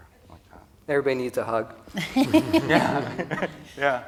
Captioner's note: laughter